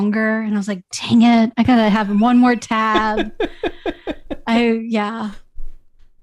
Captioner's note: laughter